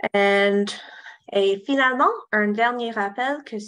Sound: speaking french

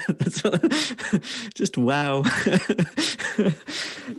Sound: laughs

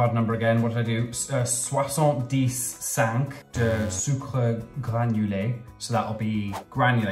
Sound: speaking in foreign language

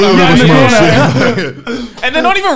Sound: laughing loudly

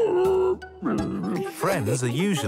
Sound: laughing; grumbles

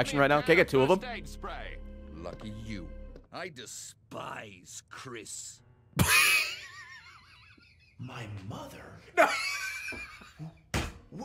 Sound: laughs

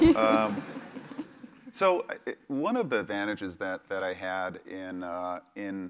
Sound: laugh

